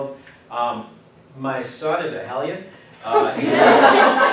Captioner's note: class Laughs